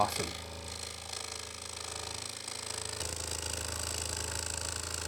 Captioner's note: saw hums